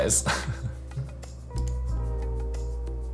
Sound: laughs

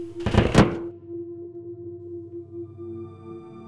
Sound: door Slams Shut

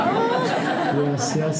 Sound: laughter

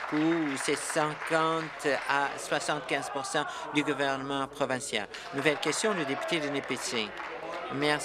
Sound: applause and cheering

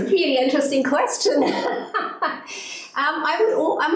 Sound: laughs

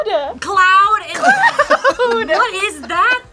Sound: laughs

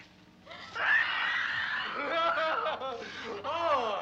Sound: screaming; laughing

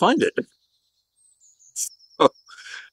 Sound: laughter

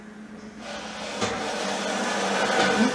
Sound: the sound of the movement of the rack on the floor

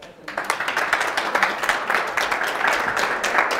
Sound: audience applause

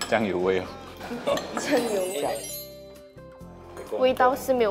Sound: everyone starts to eat

